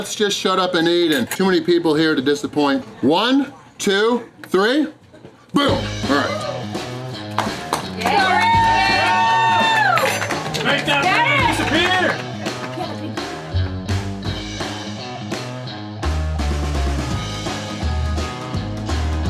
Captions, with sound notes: shut up and eat, and too many people here to disappoint. One, two, three, BOOM!! Alright. [Crowd] Let's go Randy!! Whoo!! (crowd cheering)